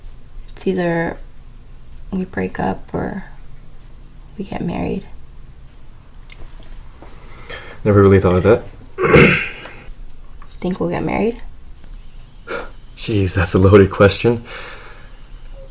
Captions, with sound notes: It's either we break up or we get married Never really thought of that *clears throat* Think we'll get married? *scoffs* Geez, that's a loaded question